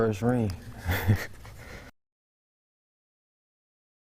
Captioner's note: chuckles